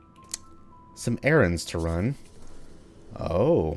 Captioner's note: gasbag noises